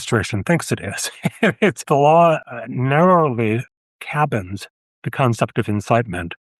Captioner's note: laughter